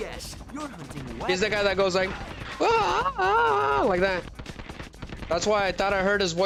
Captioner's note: screaming